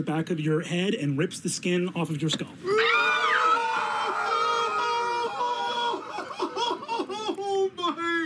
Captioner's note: exclaiming